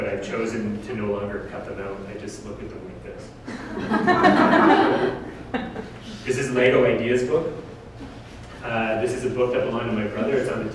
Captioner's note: audience: Laughter